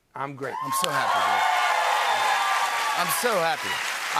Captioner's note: cheers and applause